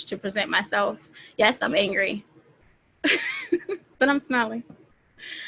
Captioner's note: laughing